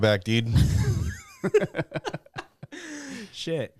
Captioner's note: laughter